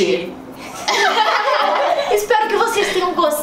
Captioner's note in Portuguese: risos